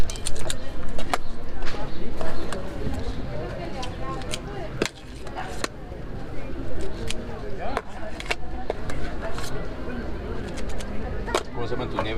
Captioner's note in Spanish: voces